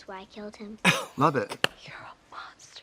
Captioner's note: Katya laughs